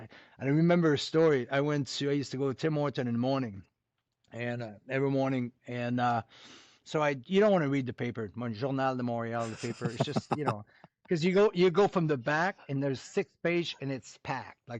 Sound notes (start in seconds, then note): 8.6 french